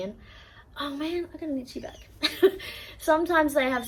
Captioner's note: laughs